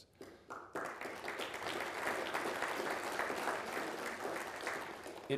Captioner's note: people applauding